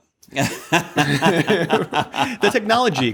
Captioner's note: laughter